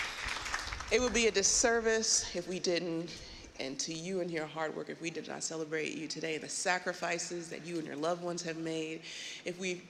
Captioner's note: cheers and applause